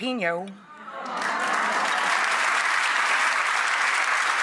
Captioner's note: audience applauds